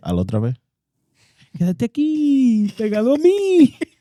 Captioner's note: speaking In Foreign Language